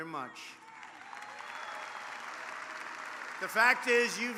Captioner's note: applause